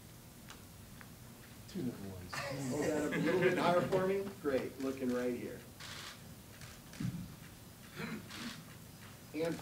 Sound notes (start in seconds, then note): 2.4 laughing; 5.8 cameras shuttering